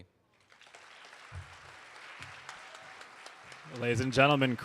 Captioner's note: audience applauding